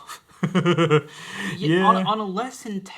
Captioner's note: laughing